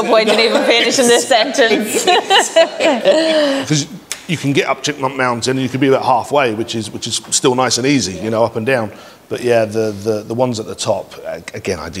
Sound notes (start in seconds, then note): 1.6 everyone laughs